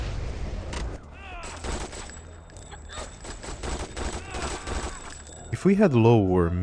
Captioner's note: rocket explosions; gun fire barrage